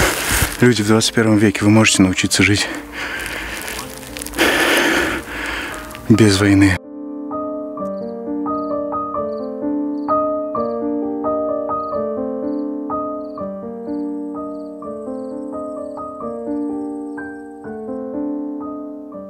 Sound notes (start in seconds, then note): 7.5 birds chirping; 7.5 calm music